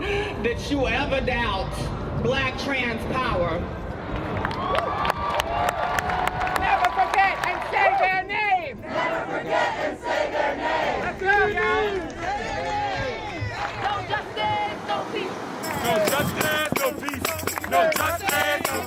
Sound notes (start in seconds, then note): 4.1 crowd clapping; 11.3 CHEERING "Say their names!" OVERLAPS